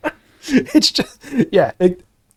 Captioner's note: laughing